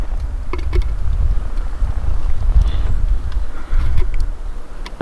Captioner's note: wind whistling